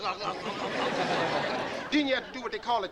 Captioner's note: audience laughing